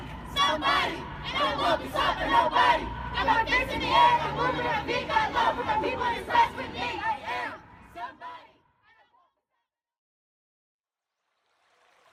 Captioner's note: youth voices chanting